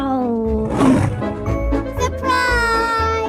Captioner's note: tiger roaring